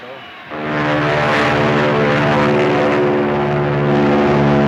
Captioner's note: airplanes buzzing